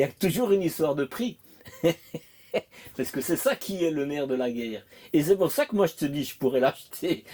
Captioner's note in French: rires